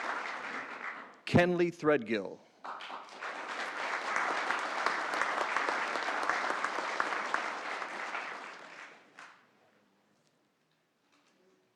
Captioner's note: applause